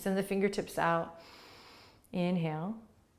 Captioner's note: inhaling